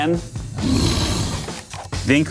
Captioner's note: growling